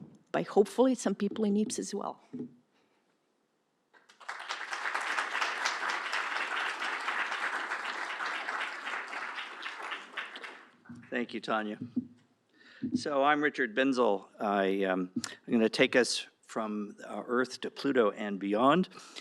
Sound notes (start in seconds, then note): 4.0 applause